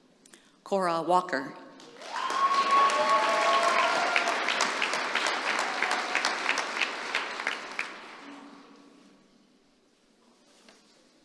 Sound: applause

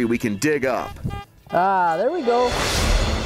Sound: beeping

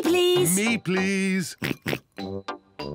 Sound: oinks

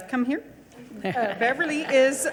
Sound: audience chuckling; speaks faintly

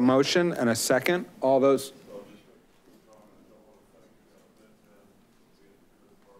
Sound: man murmuring softly

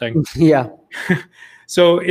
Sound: chuckles

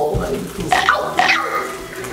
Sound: spiders munching

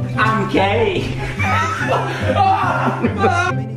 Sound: laugh

